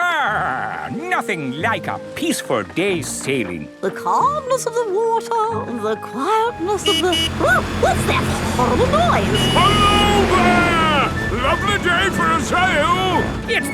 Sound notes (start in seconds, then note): 6.5 honking